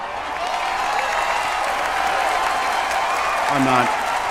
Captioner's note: audience cheers